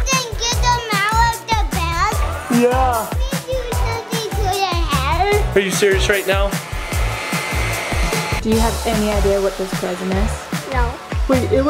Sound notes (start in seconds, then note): 5.6 vacuum whirring